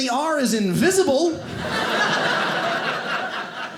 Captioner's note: audience laughing